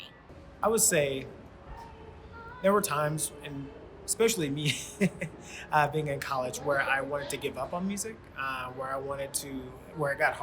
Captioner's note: laughs